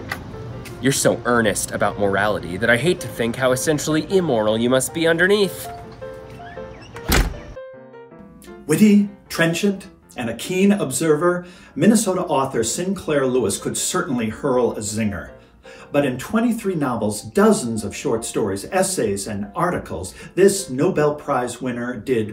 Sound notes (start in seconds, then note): 6.1 door slamming